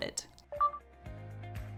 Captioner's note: upbeat music; short beep